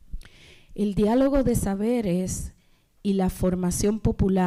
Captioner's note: speaking spanish